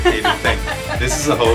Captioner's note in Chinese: 笑声